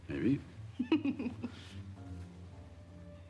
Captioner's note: laughs